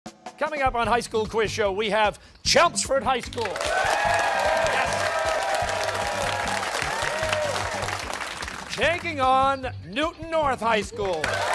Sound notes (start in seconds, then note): 3.4 cheers and applause